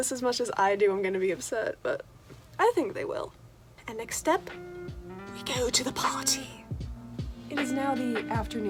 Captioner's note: in British accent